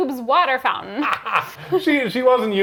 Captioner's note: laughs